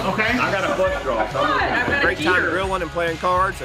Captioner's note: people laughing